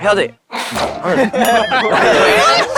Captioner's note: laughs